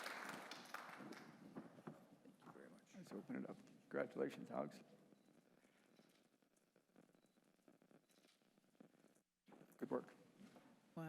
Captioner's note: applause